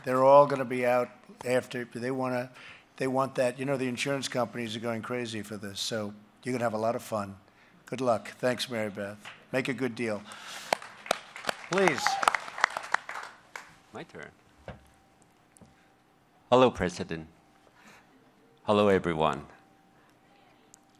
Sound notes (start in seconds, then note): 10.2 applause